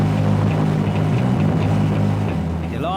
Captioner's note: boat motor roaring